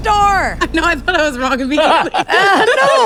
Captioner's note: Peter laughs